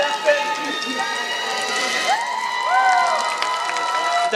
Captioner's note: applause